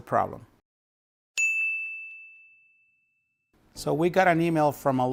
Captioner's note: dings